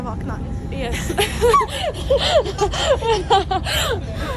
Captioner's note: both laughing nervously